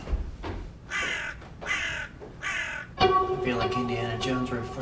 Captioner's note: bird cawing